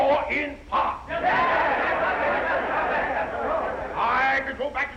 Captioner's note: crowd yelling